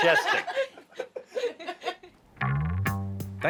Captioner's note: laughter